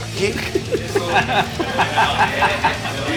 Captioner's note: laughs